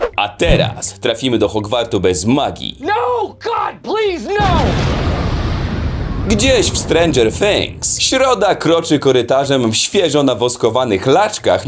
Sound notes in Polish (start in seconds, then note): 4.4 boom!